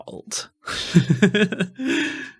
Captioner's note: laughing